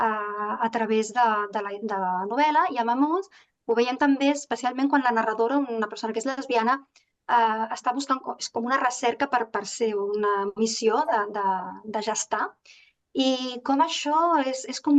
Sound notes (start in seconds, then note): 7.3 continues speaking in Catalan